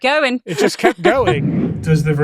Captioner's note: chuckles